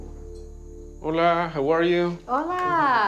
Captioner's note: speaking Spanish